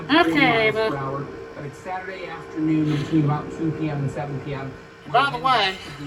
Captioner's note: TV still plays in background